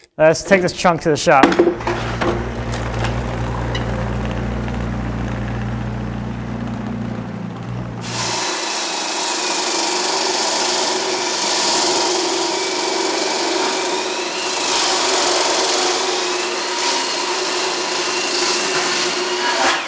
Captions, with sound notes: Let's take this chunk to the shop. (vehicle rumbling) (saw whirring)